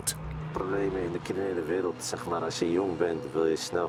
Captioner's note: Dutch spoken audio